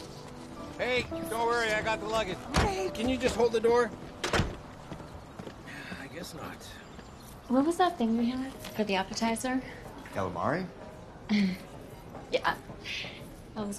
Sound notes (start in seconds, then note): 4.2 door closing; 5.0 sighing